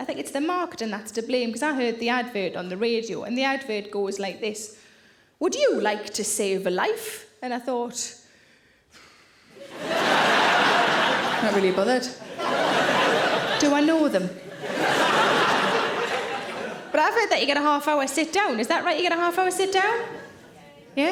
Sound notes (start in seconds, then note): 8.9 Sarah exhales; 10.1 audience laughing; 14.8 audience laughing